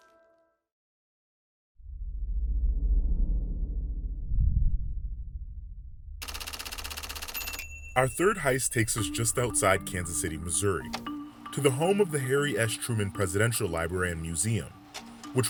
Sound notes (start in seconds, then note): 2.8 tense music; 6.2 typewriter clacking